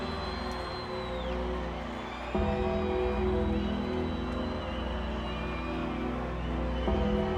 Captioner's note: dramatic music continues; crowd chattering